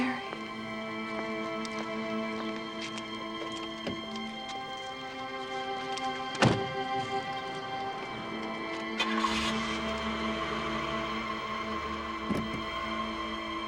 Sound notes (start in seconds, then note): 8.6 engine revs